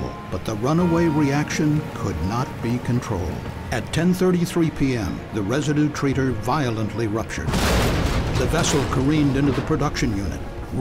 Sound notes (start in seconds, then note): 7.4 sound of explosion